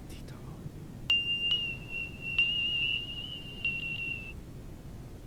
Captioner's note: screechy, beeping noises